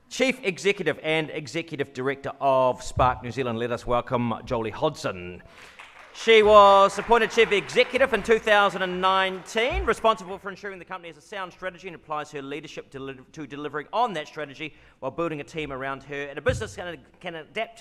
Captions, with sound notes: Chief executive and executive director of Spark New Zealand, let us welcome Jolie Hodson. (audience claps) She was the chief executive in 2019, responsible for ensuring the company has a sound strategy and applies her leadership to delivering on that strategy while building a team around her and a business can adapt